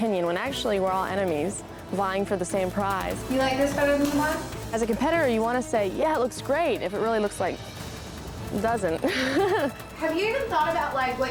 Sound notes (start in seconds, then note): 8.6 chuckling